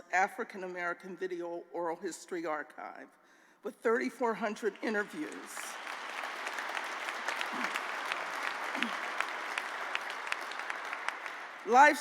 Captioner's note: applause